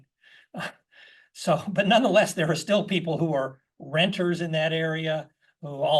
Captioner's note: laugh